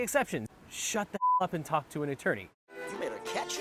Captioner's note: beep